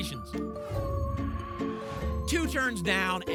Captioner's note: whoosh